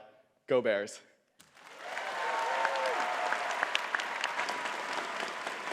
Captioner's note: audience cheering and clapping